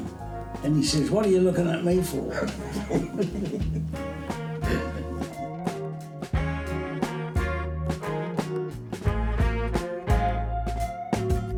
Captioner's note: both laugh